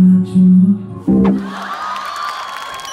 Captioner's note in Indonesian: Semua orang berteriak